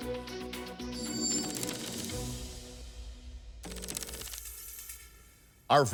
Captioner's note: suspenseful music; tense music; keys clicking